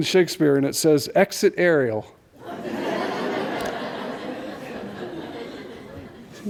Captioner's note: laughter